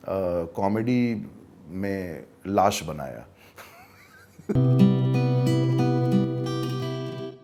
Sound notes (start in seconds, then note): 3.5 chuckles